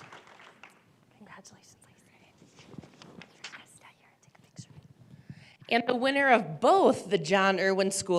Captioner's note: applause